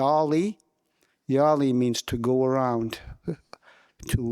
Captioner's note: speaking in</b> <b>Wolastoquey